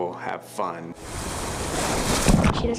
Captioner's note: rushing water; splashing water